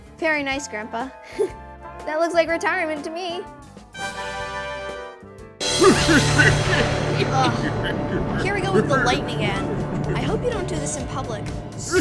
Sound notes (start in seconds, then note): 5.7 chuckling